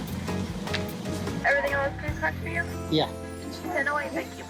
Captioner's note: drive-thru and customer conversing